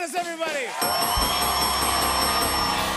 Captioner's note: cheers and applause; dinging